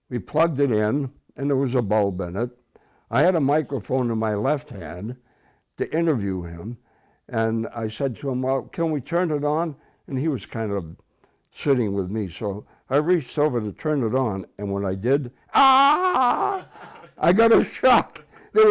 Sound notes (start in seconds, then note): 15.5 yells; 16.6 crew laughing